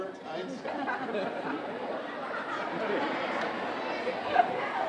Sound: audience laughing

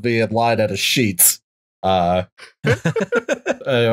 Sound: laughter

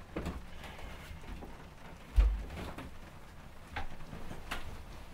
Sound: rain patters on the roof

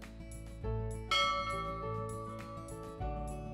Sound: gentle music; bell dings; gentle music

